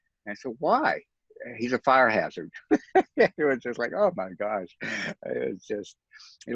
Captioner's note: chuckles